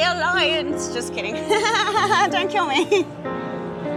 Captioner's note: laughs